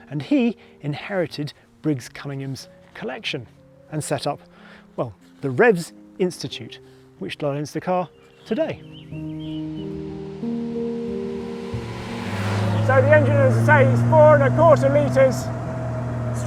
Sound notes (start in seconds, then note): 9.6 gentle music; 12.0 car engine roaring